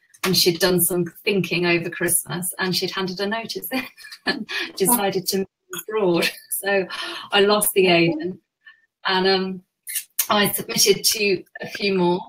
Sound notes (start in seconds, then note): 4.6 laughs